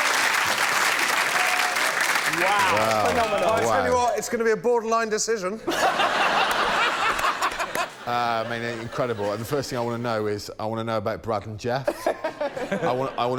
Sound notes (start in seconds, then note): 1.5 applause; 11.8 laughter